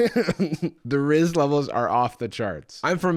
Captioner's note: laughs